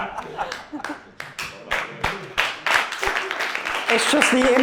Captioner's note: laughter; laughter and applause